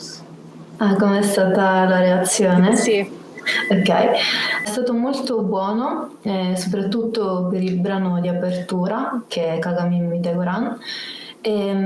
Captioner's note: speaks Italian